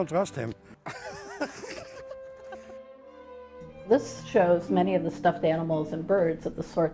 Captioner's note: laughter